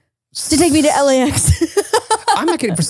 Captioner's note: laughs loudly